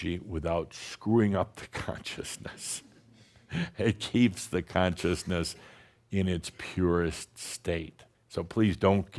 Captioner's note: chuckles